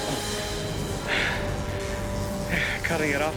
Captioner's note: sighs